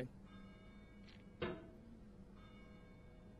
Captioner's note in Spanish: ruido del juego y cambio de pensamiento